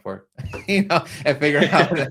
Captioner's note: chuckles